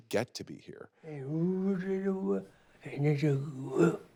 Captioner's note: Carol mumbling